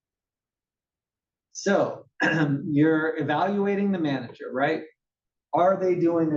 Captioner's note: cough